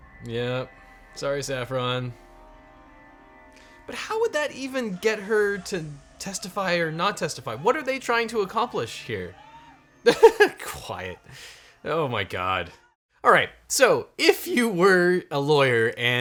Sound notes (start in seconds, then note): 10.0 laughs